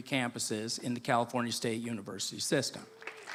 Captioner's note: applause